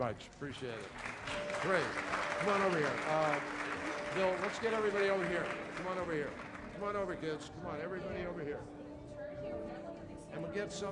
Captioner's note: applause